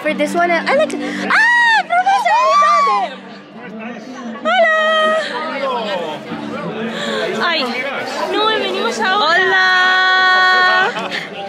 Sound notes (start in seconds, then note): 2.4 screams